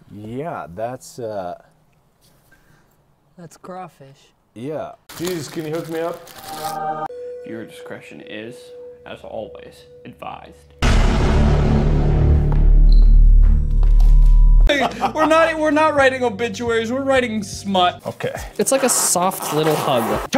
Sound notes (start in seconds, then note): 6.7 choir singing; 10.8 DOOM! sound effect